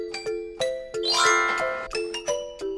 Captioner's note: sparkling sound effect